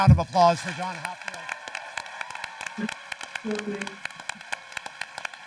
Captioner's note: audience applauding